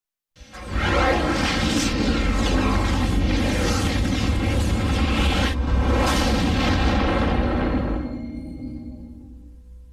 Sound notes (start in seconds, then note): 0.5 dramatic twister and helicopter sounds